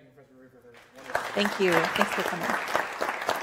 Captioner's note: audience applauding